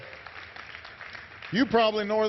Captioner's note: applause